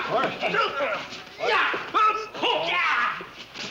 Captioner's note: shouting